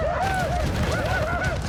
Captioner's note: men whooping